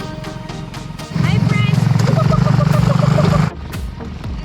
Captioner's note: making chicken noises